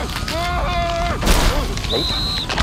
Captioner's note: whistle blows